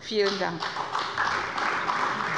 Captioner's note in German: Beifall bei Abgeordneten der CDU